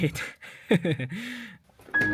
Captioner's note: laughs